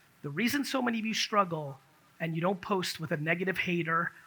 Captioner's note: none